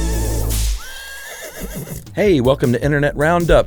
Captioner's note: horse neighing